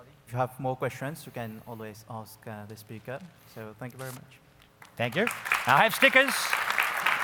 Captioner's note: applause